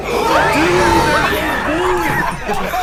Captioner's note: all cheer